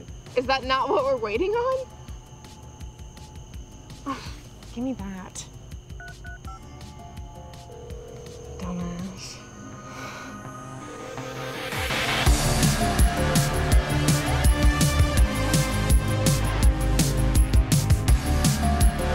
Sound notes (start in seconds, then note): 6.0 phone ringing; 7.3 9-1-1 dial tone